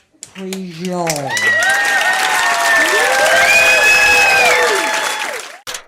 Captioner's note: applause